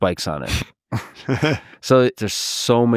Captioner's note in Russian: смеётся